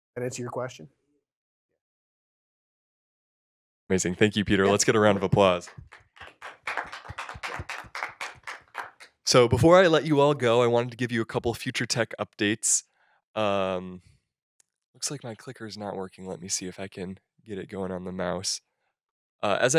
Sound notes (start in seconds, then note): 4.5 applause